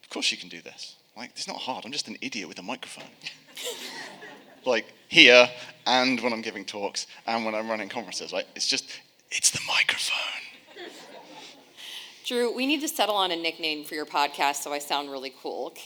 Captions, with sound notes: of course you can do this, it's not hard. I'm just an idiot with a microphone. (audience laughing) Like here, and when I'm giving talks, and when I'm running conferences, right? It's just, it's the microphone. - Drew, we need to settle on a nickname for your podcast, so I sound really cool.